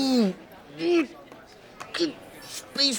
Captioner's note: groans